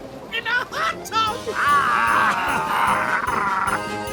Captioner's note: chuckling